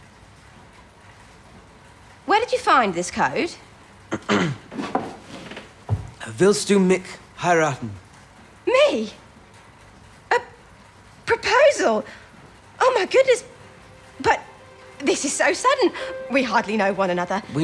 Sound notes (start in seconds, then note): 4.1 he clears his throat